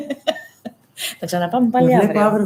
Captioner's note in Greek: γέλια